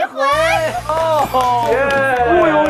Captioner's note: laughing hard